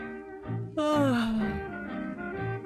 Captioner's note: yawns